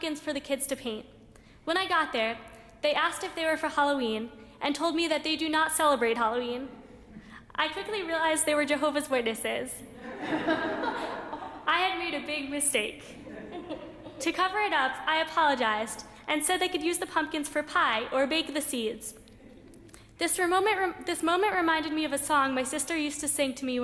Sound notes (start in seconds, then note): 9.9 laughter